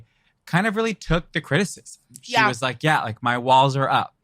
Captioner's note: laughs